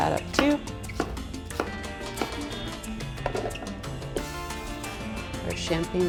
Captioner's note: bright music; chopping loudly